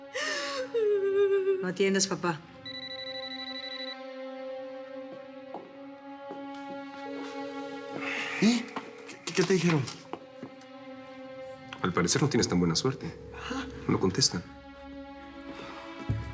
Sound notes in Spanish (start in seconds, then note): 0.0 Clara solloza; 0.3 Suena el celular; 4.5 Suena el celular